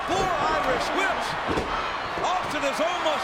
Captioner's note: audience cheers